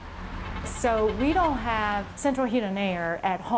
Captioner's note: cars honking